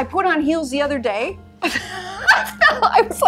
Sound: laughs

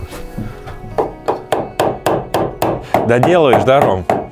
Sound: hammering

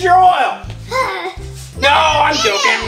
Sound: assistant sighs

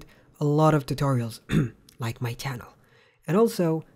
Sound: cough

